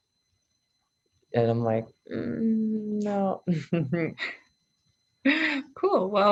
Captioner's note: chuckles